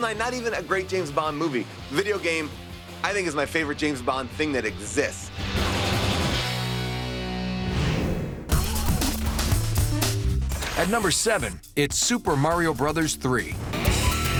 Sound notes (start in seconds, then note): 6.6 gunfire